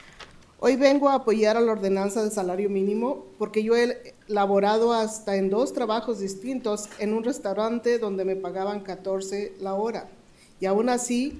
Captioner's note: speaking in spanish